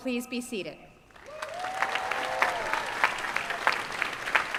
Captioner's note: applause